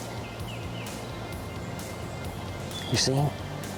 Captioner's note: birds chirping